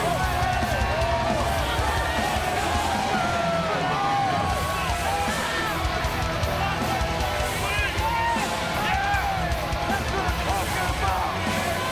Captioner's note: cheers & applause